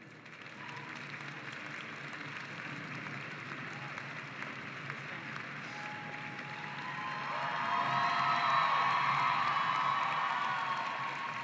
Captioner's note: cheering and applause